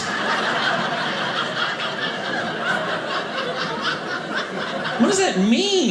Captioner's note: audience laughing